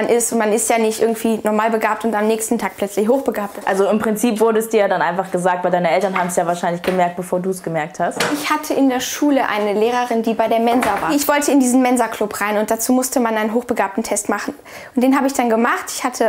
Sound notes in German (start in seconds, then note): none